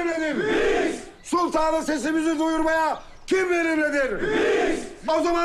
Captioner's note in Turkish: Hep bir ağızdan; Hep bir ağızdan